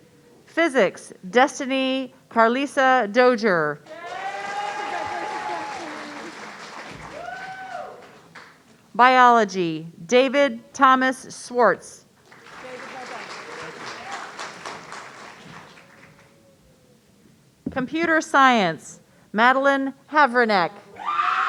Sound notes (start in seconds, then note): 3.9 audience cheering; 12.2 audience applauding